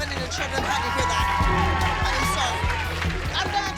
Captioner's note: applause